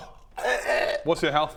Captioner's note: erghuh